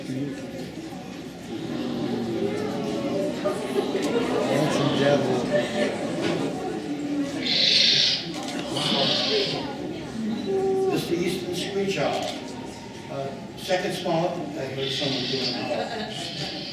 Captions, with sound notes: [Audience oohing and aahing] [Owl Screech] [Owl Screech] This is the Screech Owl. Second smallest, I heard someone doing an owl. [Owl Screeching]